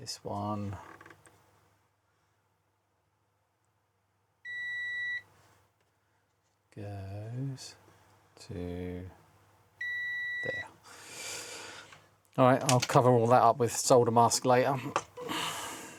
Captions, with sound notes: this one. (Beeping) Goes to there. All right, I'll cover all that up with solder mask later.